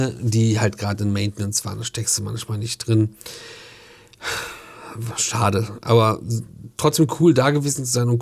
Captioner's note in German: seufzt